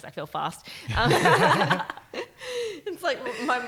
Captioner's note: laughing